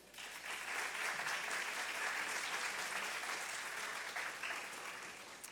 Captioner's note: audience applause